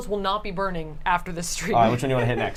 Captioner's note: laughs